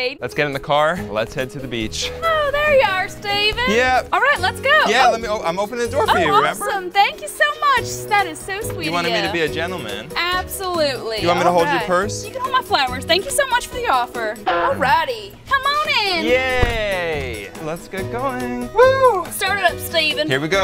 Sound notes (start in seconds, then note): 16.5 cartoon crash sound